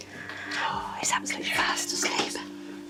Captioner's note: both whispering